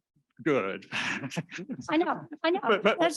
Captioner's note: laughter